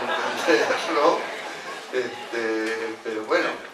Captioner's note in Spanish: risas